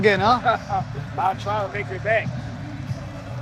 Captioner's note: laughs